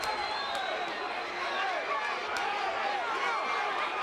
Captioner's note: audience cheers